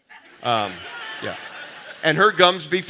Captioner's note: audience laughing